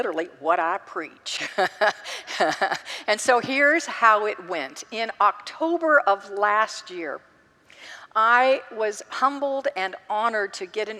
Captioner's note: laughs